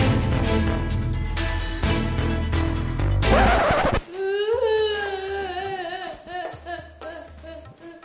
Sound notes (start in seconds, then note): 4.0 crying